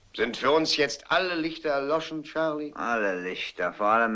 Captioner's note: none